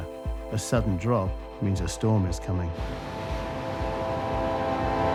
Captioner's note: suspenseful music intensifies; water churning